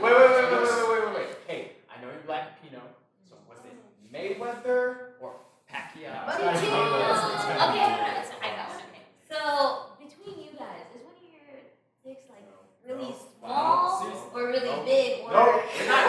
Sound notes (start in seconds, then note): 6.3 laughter